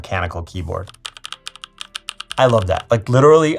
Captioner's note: keys typing